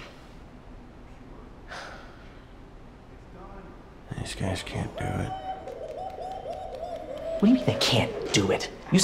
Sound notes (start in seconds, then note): 5.7 yelling excitedly in background